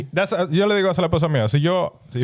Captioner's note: speaking In Foreign Language